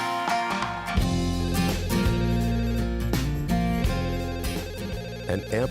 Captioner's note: phone ringing